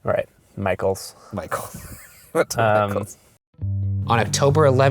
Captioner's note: voiceover